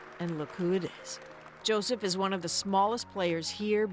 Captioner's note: applause